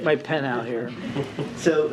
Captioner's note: laughter